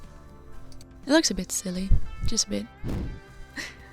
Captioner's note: chuckle